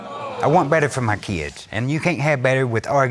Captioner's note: crowd gasping